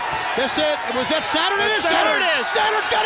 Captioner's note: crowd chatter